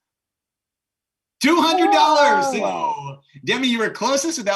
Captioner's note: cheering